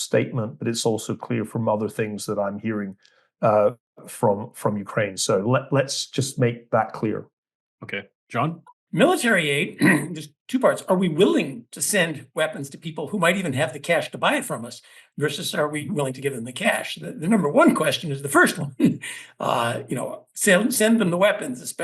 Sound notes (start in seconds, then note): 9.8 cough; 19.2 laugh